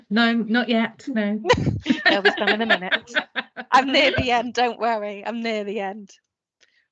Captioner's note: laughter